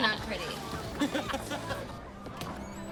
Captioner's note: laughing